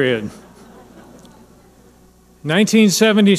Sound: audience laughing

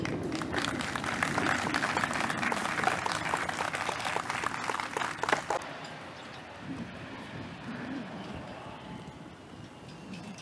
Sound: applause

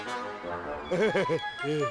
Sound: laughs

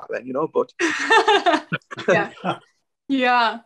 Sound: laughing

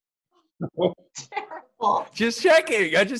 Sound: chuckling

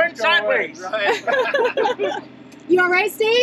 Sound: laugh

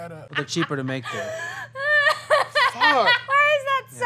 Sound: laughing

